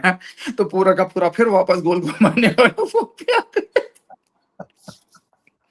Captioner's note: laughter